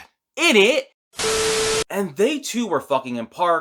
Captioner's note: Static